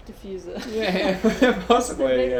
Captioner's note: both laugh